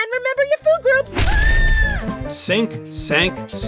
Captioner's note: tea kettle screams